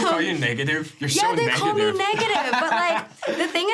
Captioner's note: laughs